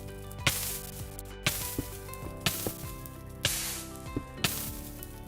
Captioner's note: burning noises & Music